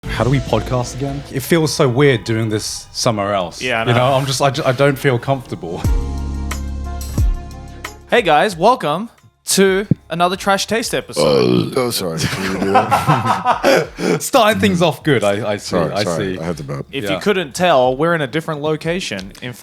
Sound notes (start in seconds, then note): 5.8 gentle music; 11.1 burps; 12.1 laughing